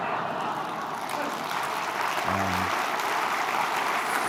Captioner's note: applause